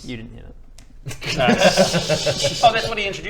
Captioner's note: laughs